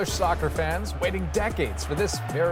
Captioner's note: cheers and Applause